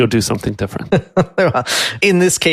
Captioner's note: laughs